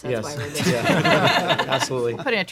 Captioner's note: laughter